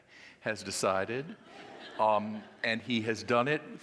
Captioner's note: audience laughing